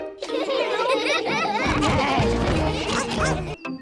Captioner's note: giggles; all giggling